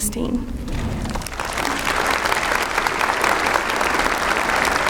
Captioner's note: applause